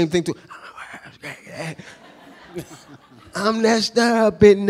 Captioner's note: laughing